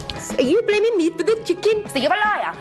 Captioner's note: in a fake Indian accent